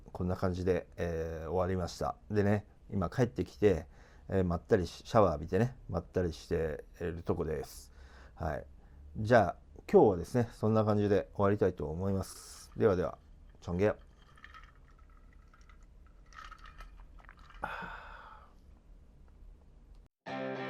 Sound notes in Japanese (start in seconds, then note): 17.5 ため息; 17.5 息をのむ音